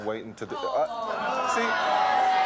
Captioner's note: audience shouting